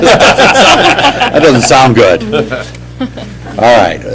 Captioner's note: laughter